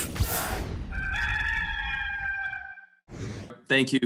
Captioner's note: rooster crowing